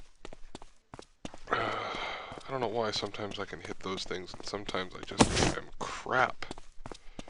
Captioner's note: sigh